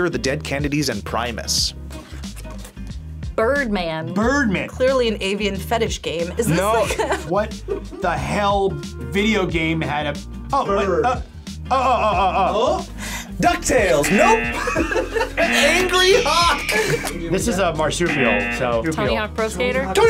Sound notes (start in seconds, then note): 14.0 buzzer; 14.0 laughs